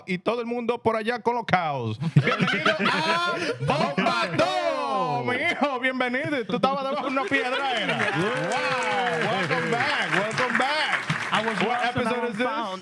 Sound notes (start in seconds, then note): 2.0 laughter; 5.3 speaking Spanish; 6.4 laughter